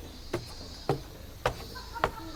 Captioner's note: footsteps on stairs